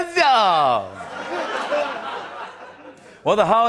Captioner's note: laughter